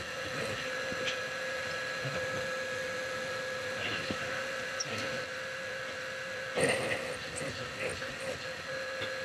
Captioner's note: mill Whirling